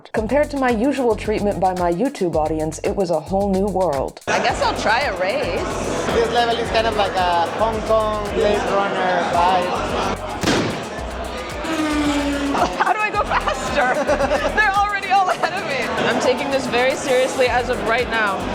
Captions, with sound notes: Compared to my usual treatment by my YouTube audience, it was a whole new world. - I guess I'll try a race. - This level is kind of like a Hong Kong/Blade Runner vibe. [starting shot] [racecar zoom] - How do I go faster? Their already all ahead of me. [host laughs] I'm taking this very seriously as of right now.